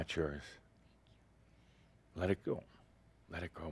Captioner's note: whispers